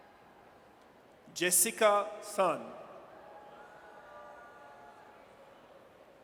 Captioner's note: audience cheers